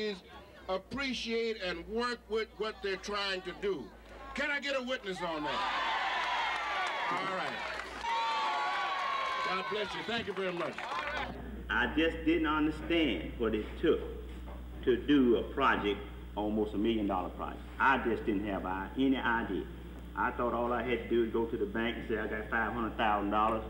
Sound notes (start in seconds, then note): 7.5 cheers